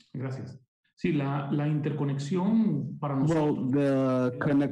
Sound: speaking in foreign language

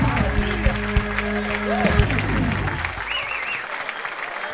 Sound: cheers and applause

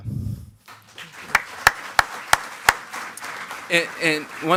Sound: attendees clapping

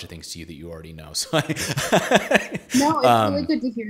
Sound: laughs

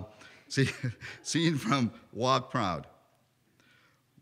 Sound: laughter

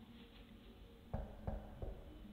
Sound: knock knock

